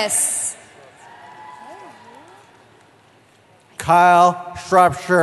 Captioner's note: cheering